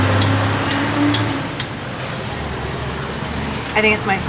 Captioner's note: truck engines, honks and traffic sounds